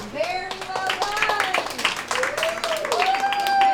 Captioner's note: cheers and applause